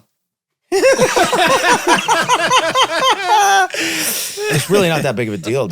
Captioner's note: all laugh